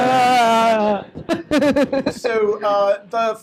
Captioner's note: laughs